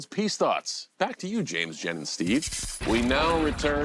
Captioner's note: static interference